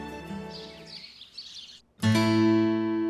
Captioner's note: birds chirping